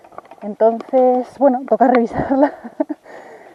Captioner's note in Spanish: Se ríe